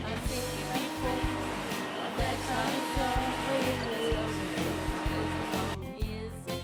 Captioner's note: sound of a vacuum cleaner